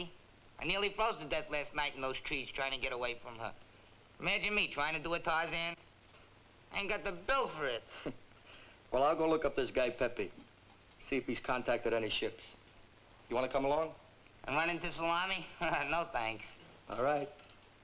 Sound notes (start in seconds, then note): 7.8 chuckles; 15.4 chuckles